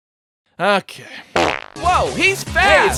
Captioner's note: pop